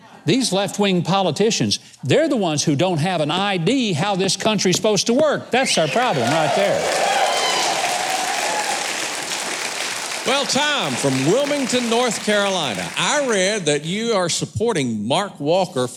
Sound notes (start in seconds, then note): 5.6 audience cheering